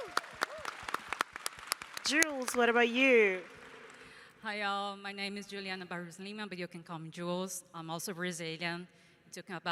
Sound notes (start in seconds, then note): 0.0 applause